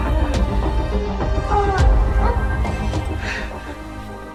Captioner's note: moans